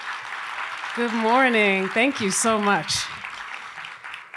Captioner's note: applause